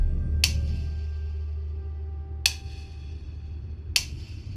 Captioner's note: ticking